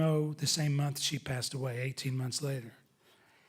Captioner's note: none